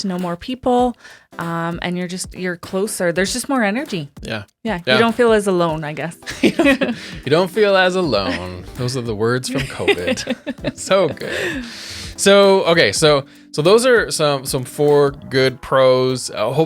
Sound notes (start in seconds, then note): 6.2 both laughing; 9.4 laughing